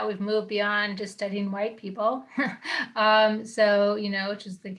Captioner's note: chuckles